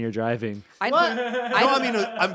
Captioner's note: laughing